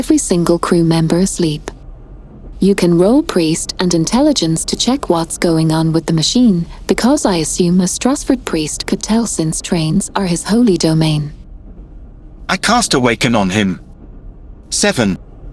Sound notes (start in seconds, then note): 12.5 laughs